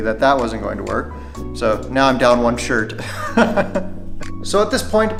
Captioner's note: laughs